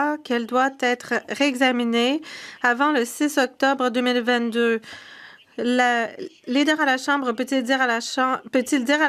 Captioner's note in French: voix de l'interprète